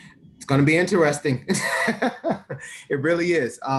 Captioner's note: laughs